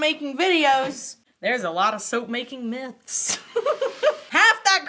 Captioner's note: laughs